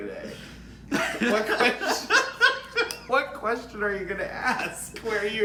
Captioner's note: laughs